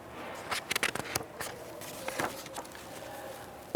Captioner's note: paper rustling